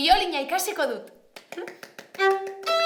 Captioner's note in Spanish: Aplausos